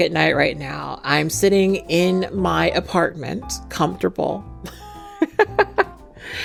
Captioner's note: laughs